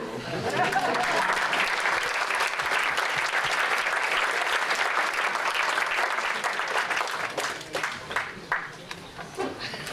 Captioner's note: applause